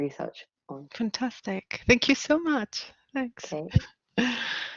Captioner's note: chuckling